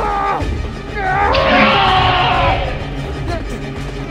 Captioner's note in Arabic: هرمس يزأر